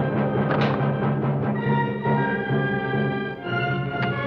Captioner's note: gun clacks